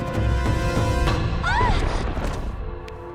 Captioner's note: screaming